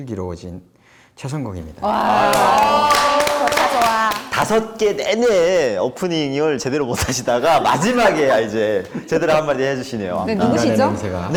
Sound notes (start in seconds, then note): 2.1 clapping